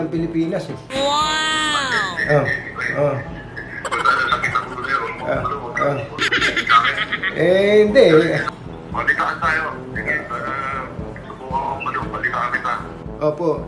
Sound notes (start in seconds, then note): 3.8 laughing